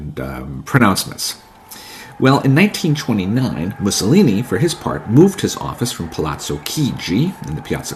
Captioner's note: crowd cheering